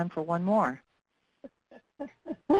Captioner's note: laughing